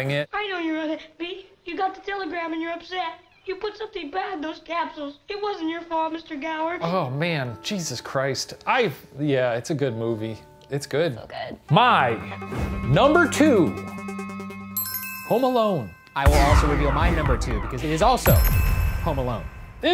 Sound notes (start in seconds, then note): 13.2 bell dinging